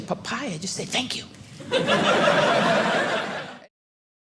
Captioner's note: audience laughing